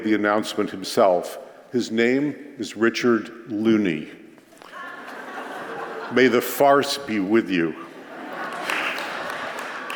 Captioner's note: applause